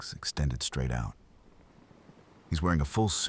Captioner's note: wind Blowing